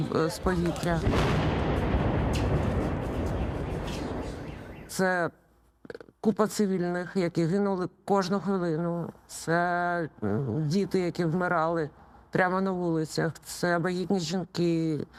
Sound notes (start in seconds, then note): 0.5 explosion